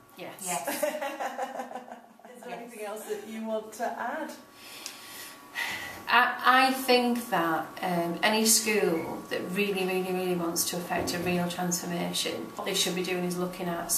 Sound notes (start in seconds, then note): 0.6 interviewer laughing